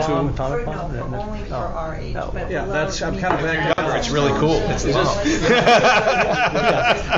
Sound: many speaking; many speaking

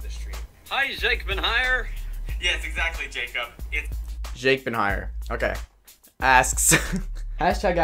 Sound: laughs at the joke

